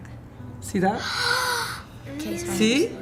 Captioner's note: child gasps